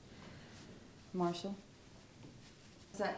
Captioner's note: none